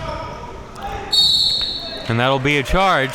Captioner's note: whistle blowing